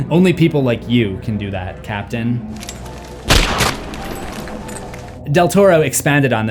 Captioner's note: gunshot